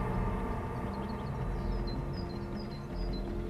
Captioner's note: birds chirping; soft tense upbeat music